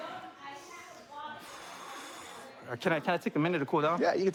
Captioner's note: exhales